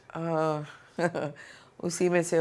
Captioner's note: chuckles